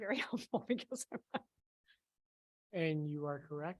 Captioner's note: person laughing